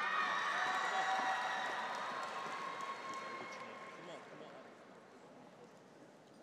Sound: cheers; audience applauds

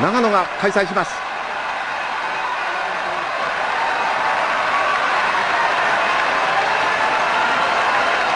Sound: crowd cheers

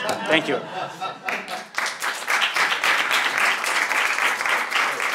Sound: applause

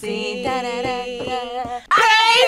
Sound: vocalizing

